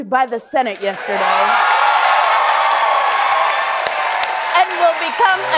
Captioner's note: cheering and applause